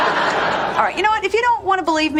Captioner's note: laugh Track